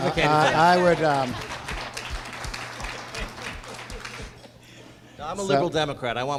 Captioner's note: applause